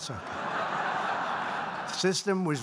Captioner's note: laughter